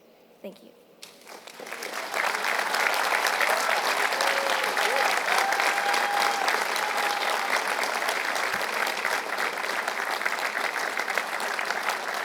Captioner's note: applause